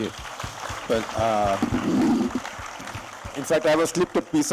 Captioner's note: applause